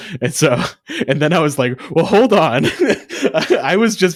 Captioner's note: laughs